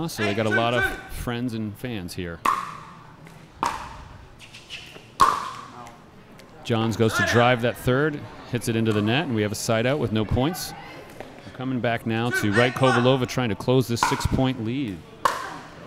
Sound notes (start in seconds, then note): 2.9 ball bouncing; 15.2 ball bouncing